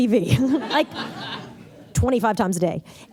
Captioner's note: laughter